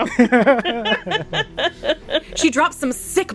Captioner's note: laughter